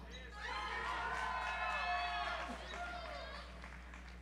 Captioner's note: audience applauds